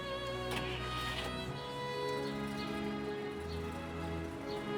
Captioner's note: engine starts